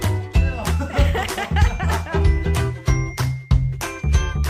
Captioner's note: laughing